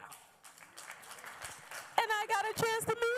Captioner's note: apllause